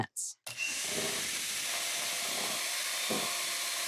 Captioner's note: mixer whirring